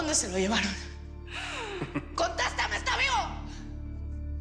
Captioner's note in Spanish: Risa sarcástica